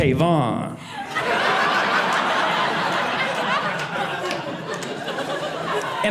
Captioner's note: audience laughing